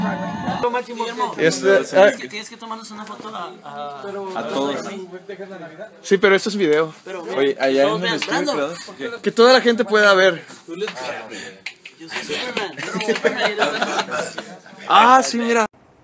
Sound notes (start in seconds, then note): 10.4 alien dialect